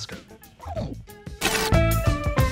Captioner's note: TV Static SFX